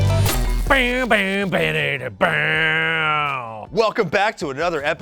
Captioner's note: mimics electric guitar